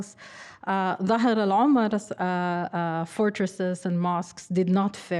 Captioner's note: speaking arabic